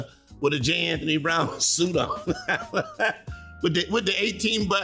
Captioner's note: laughing